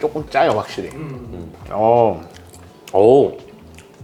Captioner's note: astonished